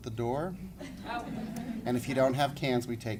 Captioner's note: laughing